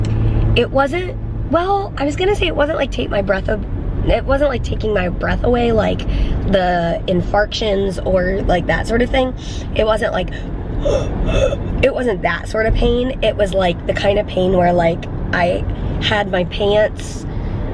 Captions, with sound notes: It wasn't, well, I was gonna say it wasn't like take my breath. Oh, it wasn't like, taking my breath away like the infarctions or like, that sort of thing. It wasn't like... [gasping] It wasn't that sort of pain. It was like the kind of pain where like, I had my pants